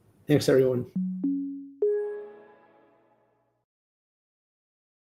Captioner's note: Windows chime